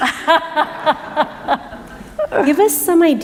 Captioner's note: laughter